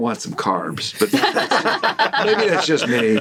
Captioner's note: all laughing